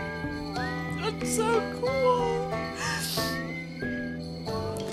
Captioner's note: sniff